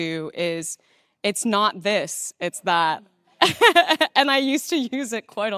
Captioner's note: laughing